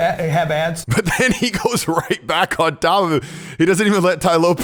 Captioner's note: laughing